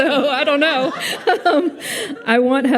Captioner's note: audience laughs